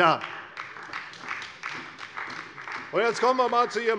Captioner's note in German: Beifall bei der CDU und dem BÜNDNIS 90/DIE GRÜNEN